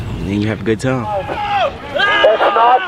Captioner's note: men yelling